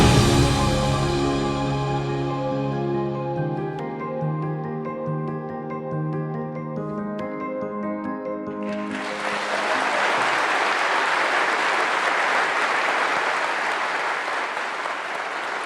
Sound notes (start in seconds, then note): 8.6 applause